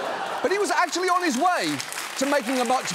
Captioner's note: laughter, applause